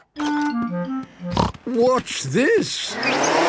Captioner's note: snorting